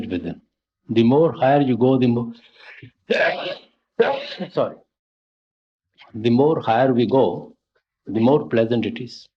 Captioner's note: sneezes twice